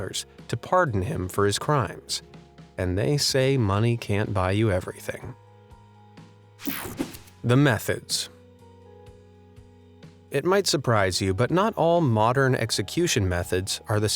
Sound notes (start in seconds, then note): 6.6 image whooshing; 6.7 calm music